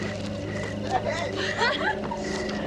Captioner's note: girl giggling